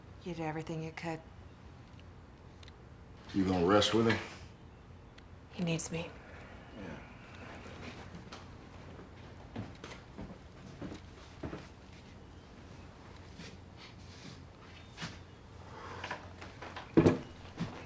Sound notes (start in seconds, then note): 14.0 sniffs